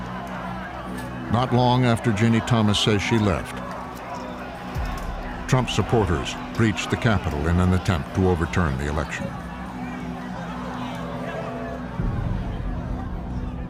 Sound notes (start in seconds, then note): 0.3 protesters shouting; 4.7 clamoring; 10.5 shouting and fighting